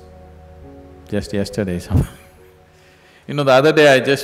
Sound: laughs

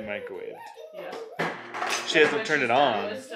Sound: babbles

